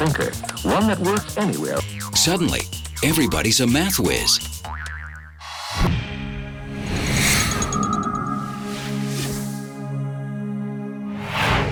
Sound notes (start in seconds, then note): 6.7 graphic whooshes